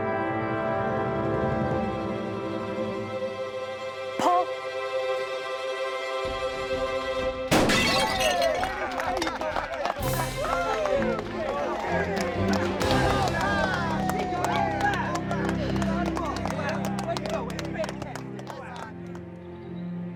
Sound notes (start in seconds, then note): 7.5 gunshot; 7.5 clay pigeon explodes; 10.3 cheering, applause